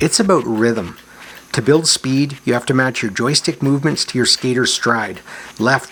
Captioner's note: none